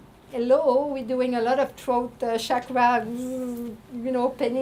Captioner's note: buzzing